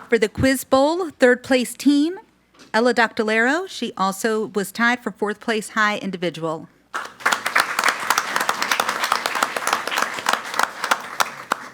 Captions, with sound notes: For the Quiz Bowl, third place team, Ella Doctolero, she also was tied for fourth place high individual. (audience applauds)